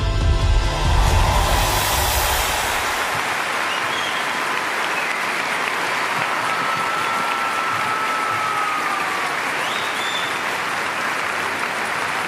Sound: applause and cheering

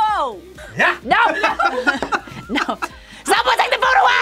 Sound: both laugh

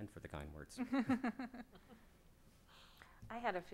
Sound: laughs

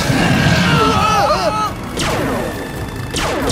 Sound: laser fires; battle yells

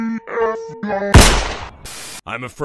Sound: gun shot

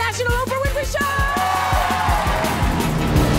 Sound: cheers

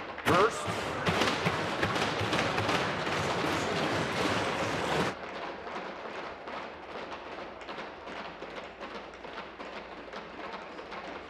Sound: tapping of desks

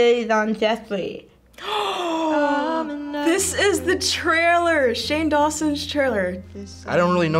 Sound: gasps

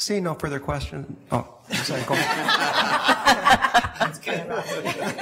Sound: audience laughs

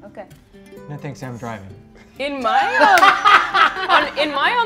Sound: cast laughing

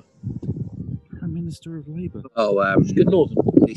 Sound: whispers

